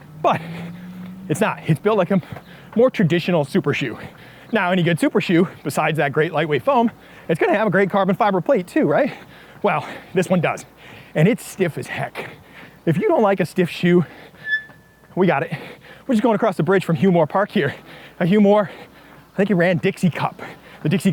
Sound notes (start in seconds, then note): 14.4 machines squeaking